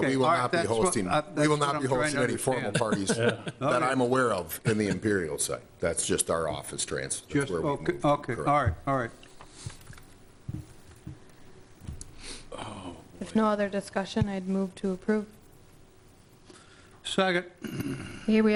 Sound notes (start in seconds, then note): 2.6 laughter